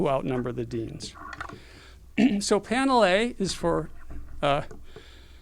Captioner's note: cough